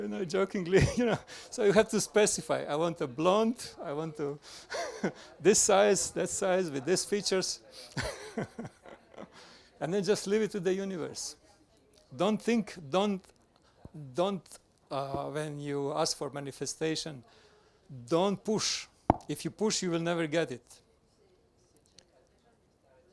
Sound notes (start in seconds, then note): 0.0 laughs; 0.8 laughing; 8.4 laughing